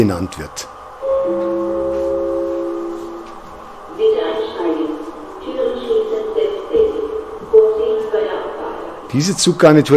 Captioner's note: gong and announcement